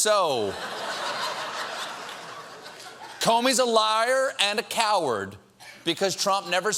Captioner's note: laughter